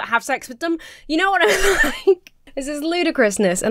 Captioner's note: laughs